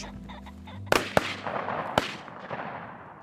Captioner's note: gun shots